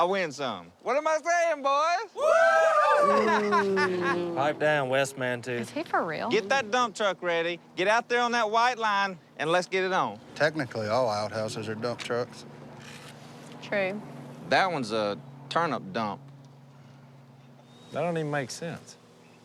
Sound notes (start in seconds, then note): 2.1 cheering; 2.2 booing